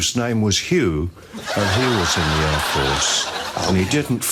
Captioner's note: audience laughs